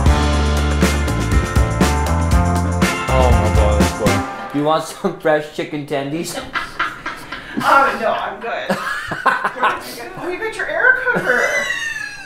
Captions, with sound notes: - Oh my gosh, that's good. You want some fresh chicken tendies? (laughing) - Oh, no, I'm good. (laughing) Oh, you got your air cooker.